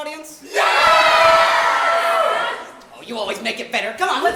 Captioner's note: audience says yes